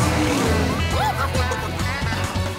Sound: cackling

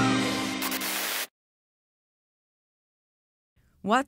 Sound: rock music continues; sign sizzling

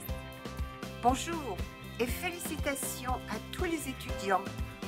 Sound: speaking french

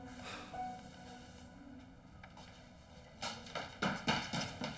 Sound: Sebastian sighing

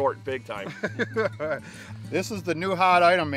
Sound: laughing

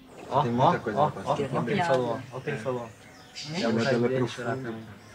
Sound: speaking in foreign language

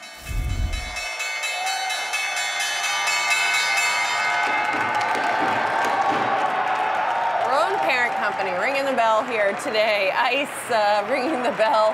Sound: bell ringing

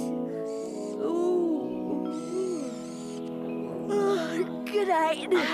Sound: yawns

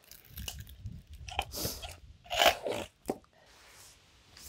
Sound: wood splinters

